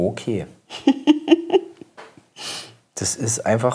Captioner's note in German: lacht